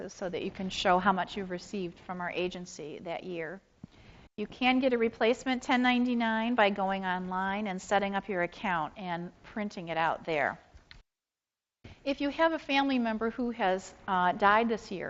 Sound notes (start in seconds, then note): none